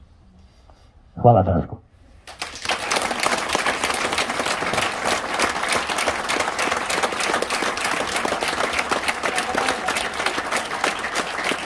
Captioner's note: applause…